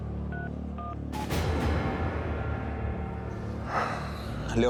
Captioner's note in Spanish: sonido al marcar